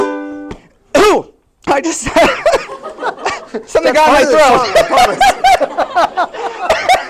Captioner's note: cough